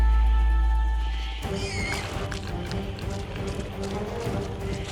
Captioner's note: dramatic music playing; pigs squeal